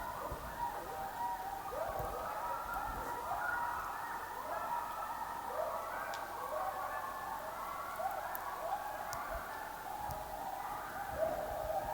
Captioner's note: howling